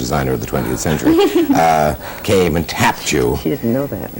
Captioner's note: laughter